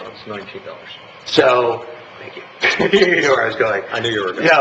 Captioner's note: chuckles